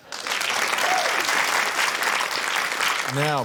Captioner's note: applause